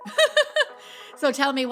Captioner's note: laughing